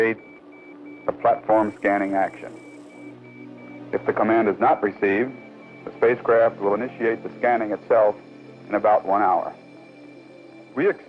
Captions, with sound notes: - The DC 25 command should initiate a platform scanning action. (beeping sounds) If the command is not received the spacecraft will initiate the scanning itself